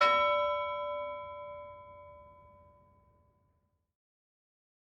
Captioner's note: bell ringing